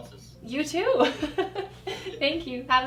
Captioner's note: laughing